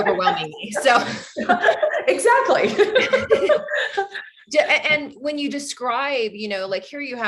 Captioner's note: both laugh